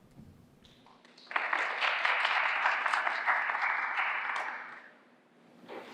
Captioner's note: applause